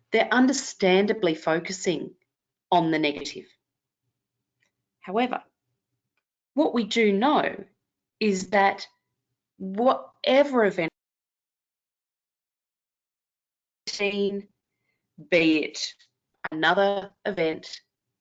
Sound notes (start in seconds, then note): 11.0 audio cuts out